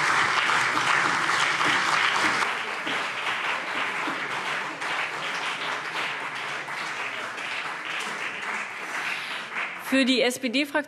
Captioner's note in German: Beifall BÜNDNIS 90/DIE GRÜNEN und CDU